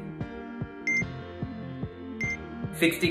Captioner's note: scale beeps